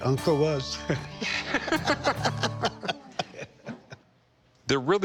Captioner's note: both laugh